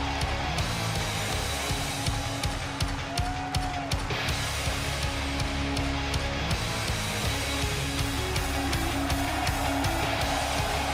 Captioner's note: crowd cheering